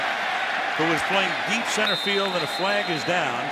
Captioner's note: whistle